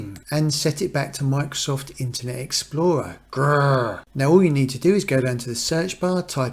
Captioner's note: growl